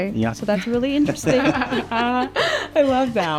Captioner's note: laughs